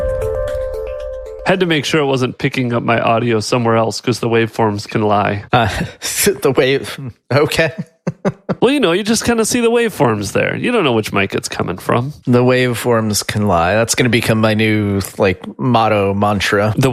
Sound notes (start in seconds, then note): 0.0 upbeat music; 7.5 laughs